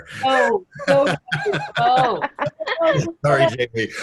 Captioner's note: laughing